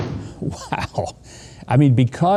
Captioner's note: laughs